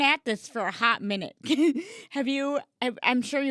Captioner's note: chuckling